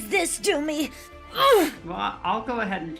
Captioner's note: grunts